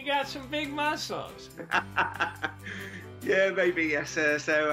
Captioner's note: chuckles